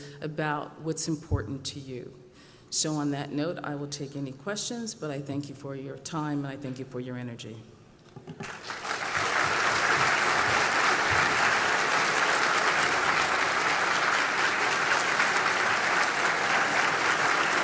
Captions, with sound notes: about what’s important to you. So on that note, I'll take any questions, but I thank you for your time. I thank your energy. ( applause )